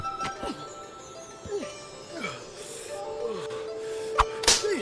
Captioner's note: Night groaning; stick smacking